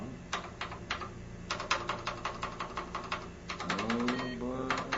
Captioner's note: keys clacking